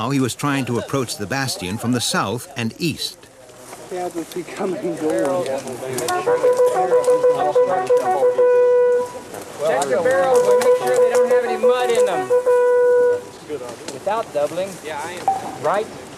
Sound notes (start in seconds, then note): 4.8 soft chattering; 5.9 horn trumpets